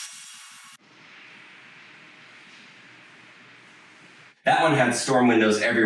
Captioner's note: blinds rasping